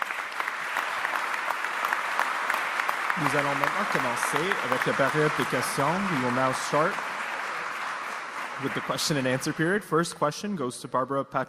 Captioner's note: applause